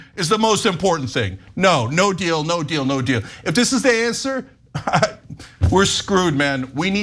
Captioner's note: laugh